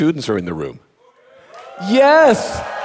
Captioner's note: audience cheering; audience applauding